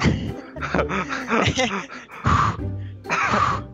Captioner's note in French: rires